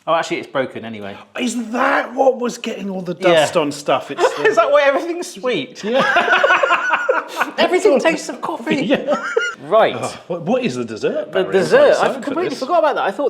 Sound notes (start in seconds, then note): 5.8 both laugh loudly